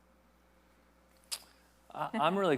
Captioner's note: tongue clicks